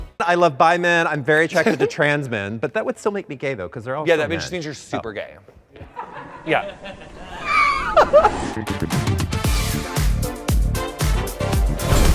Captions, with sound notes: - I love bi men, I'm very attracted to trans men but that would still make me gay though 'cause they're all- - That just means you're super gay. (all laughing) (upbeat music begins)